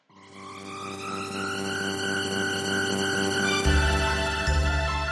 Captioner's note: electric humming